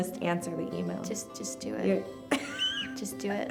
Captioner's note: laughs